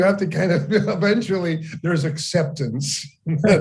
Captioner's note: laughing